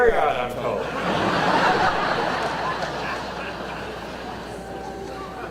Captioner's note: audience laughter